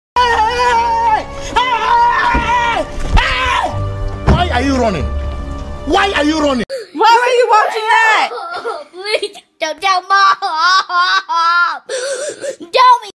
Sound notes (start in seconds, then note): 1.4 screaming; 8.0 sobbing